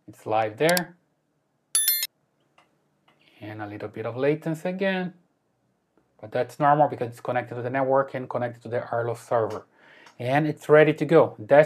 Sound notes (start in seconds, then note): 1.8 mouse clicking